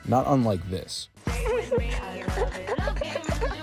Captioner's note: giggles